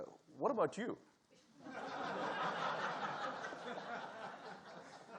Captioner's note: audience laughing